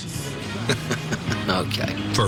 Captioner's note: chuckling